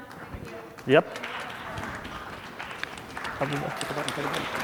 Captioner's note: applause